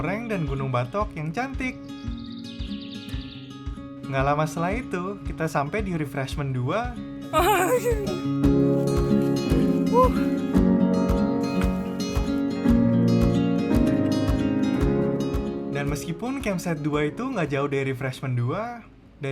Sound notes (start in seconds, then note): 7.3 sound of gasping